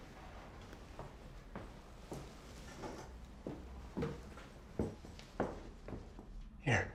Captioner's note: footsteps